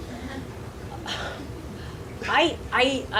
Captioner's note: sighs